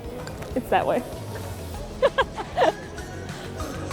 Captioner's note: laughs